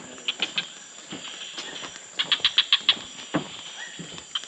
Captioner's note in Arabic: زقزقة الطيور